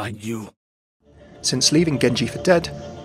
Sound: voiceover

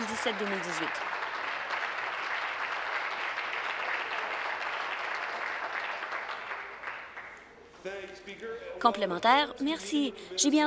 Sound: applause

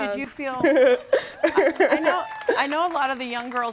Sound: laughs

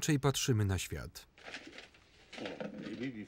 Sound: paper crinkling

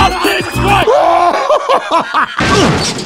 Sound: laughing

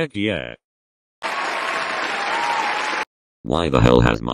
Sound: cheering!

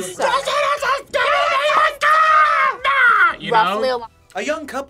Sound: yells

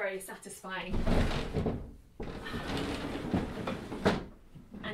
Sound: heavy wood sliding

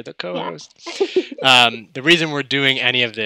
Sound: laughs

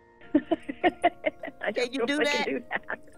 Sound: laughing

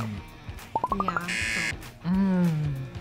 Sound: buzzer

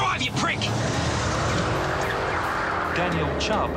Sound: car engine revving

